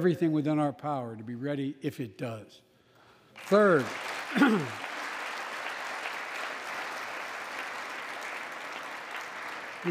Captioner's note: applause